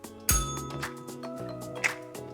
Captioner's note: bell rings